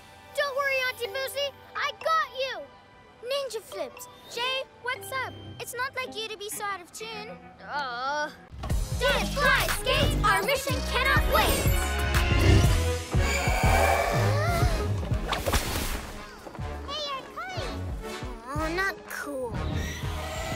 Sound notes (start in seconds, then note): 7.4 groans; 13.4 gasps